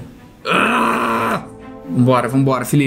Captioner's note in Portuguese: resmunga